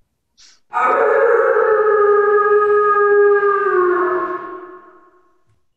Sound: a howl

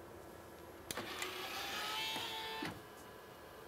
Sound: machine whirring

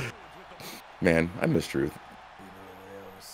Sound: laugh

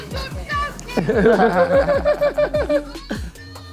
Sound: both laughing

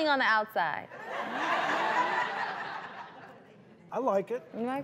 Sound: crowd laughing

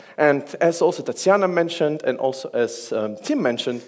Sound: none

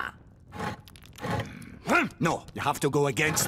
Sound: scraping

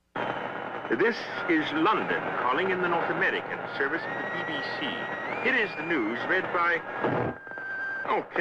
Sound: imitating radio announcers

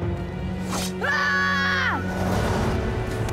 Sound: screaming

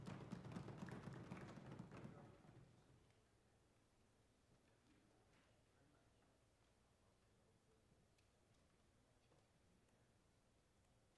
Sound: some Applause

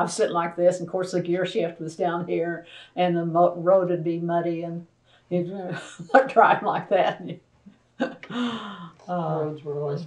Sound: laughter

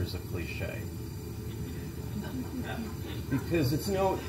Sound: laugh

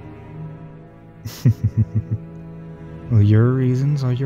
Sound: laughter

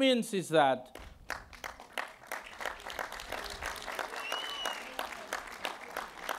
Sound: applause

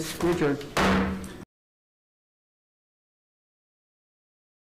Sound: gavel bangs

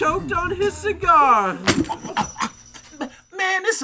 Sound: choking

